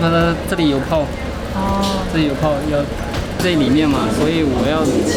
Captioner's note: speaking foreign language